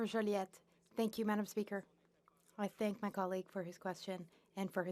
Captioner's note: speaking French